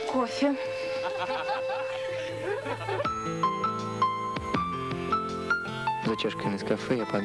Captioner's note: laughter